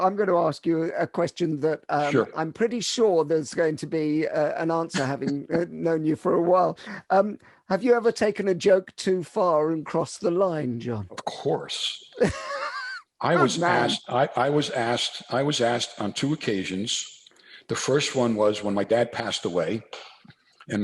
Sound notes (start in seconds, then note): 12.2 laughs